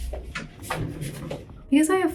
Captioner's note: door sliding